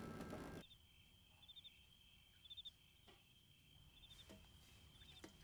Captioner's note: crickets chirping